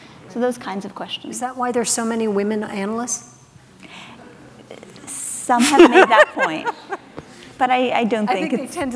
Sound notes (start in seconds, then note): 3.9 audience laughs; 5.6 laughs